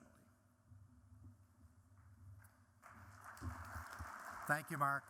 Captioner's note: applause